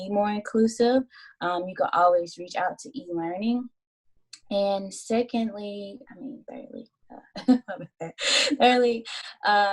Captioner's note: laughter